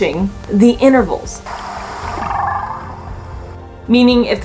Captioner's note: whale vocalizations